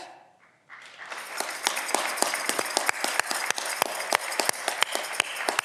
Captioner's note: audience clapping